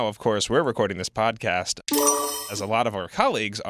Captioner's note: chime